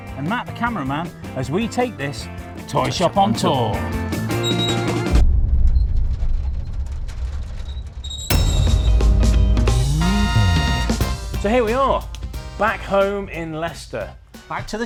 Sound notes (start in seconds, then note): 5.1 playful music crescendos; 8.4 upbeat music starts; 8.4 thud sound effect plays